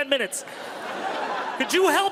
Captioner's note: crowd laughs